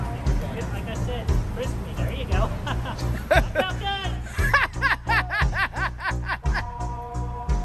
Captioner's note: everyone laughs